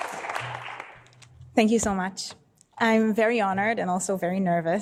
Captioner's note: applause